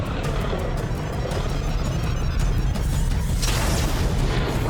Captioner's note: beeping